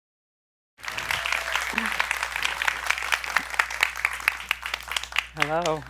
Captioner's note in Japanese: 拍手